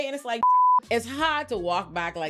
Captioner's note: beep